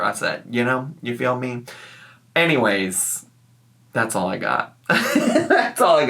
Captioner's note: chuckles